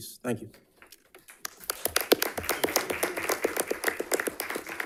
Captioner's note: audience applauding